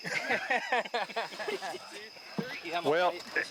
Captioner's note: all laughing